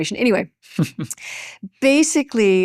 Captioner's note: chuckles